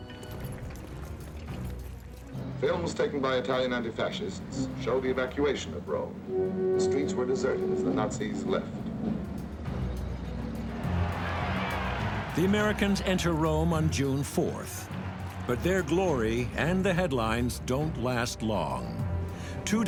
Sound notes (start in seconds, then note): 0.1 suspenseful music; 8.9 suspenseful music; 10.7 crowd cheering